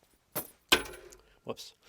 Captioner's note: keys clang